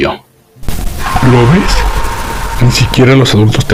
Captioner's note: calmly